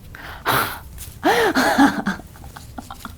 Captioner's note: laughs